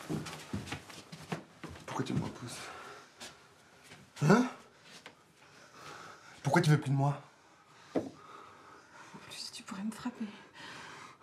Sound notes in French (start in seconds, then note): none